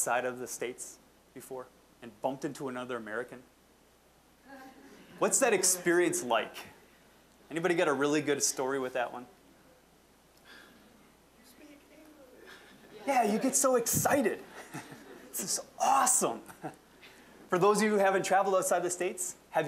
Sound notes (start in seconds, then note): 4.5 audience laughing